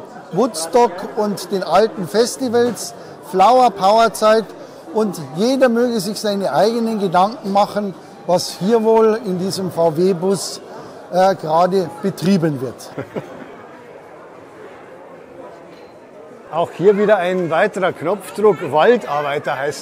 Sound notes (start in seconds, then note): 12.9 laughs